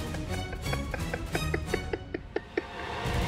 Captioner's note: laughing